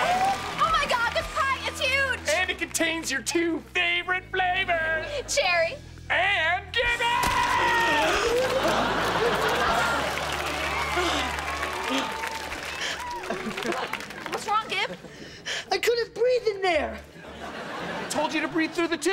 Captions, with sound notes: Oh my god, this pie is huge! And it contains your two favorite flavors! - Cherry. - And Gibby! [gasping] What's wrong, Gib? I couldn't breathe in there. I told you to breathe through the tube.